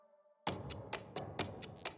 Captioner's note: ticking